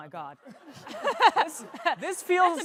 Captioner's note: laughter